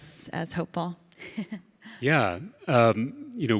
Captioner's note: laughs